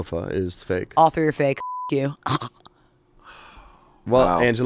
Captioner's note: beep